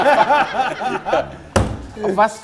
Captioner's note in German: Lachen